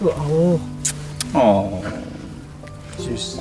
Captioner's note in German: Kussgeräusch